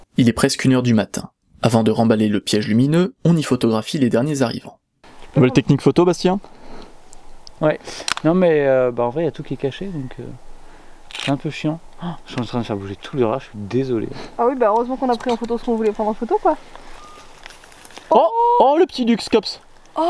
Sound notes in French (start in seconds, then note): 17.0 Cri de Petit-duc au loin